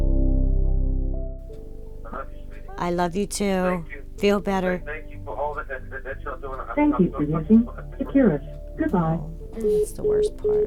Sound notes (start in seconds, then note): 6.9 automated Voice; 9.6 call ends